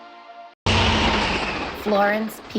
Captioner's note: travelling train sound